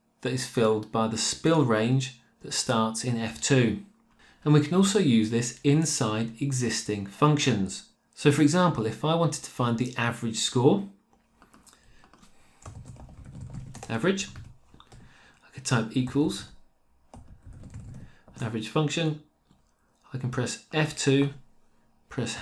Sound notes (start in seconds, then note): 12.6 keyboard typing; 17.1 keyboard typing